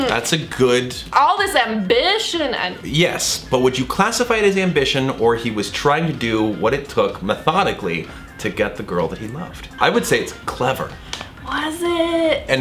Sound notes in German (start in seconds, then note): none